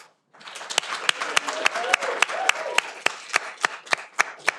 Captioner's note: audience applauding